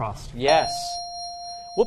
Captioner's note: bell dings